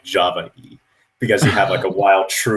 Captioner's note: laughs